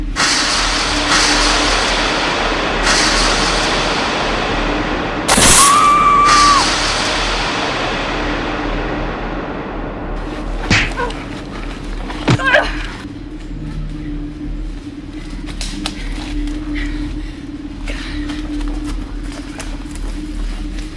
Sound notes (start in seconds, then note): 0.1 dramatic music; 5.7 Tina yells; 10.6 fighters grunting; 10.7 strikes thudding; 15.9 Macy panting